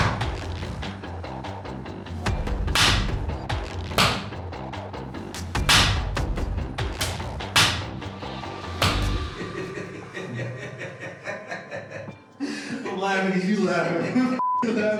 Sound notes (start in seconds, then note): 9.3 laughter